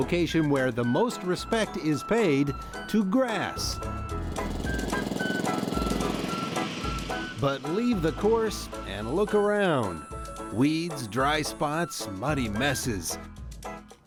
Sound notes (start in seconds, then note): 3.8 sound of running motor